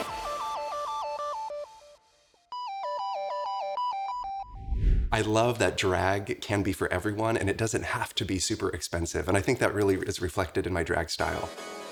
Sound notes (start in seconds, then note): 0.2 bright electronic music; 4.4 image whooshes